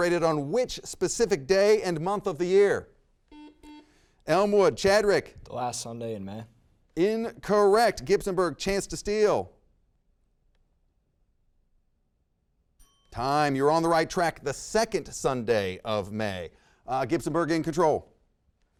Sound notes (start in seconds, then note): 3.3 buzzer rings; 12.8 bell dings